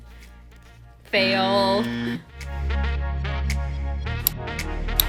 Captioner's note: buzzer; hiphop music